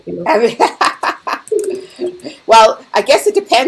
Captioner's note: laughing